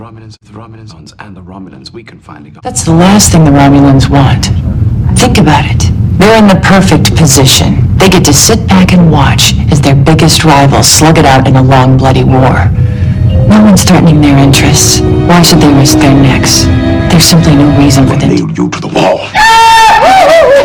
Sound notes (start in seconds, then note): 2.6 interrupting LOUDLY; 19.3 Goofy terrified yell